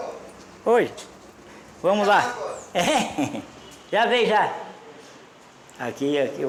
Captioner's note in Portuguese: risos